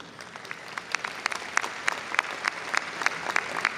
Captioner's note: audience applauding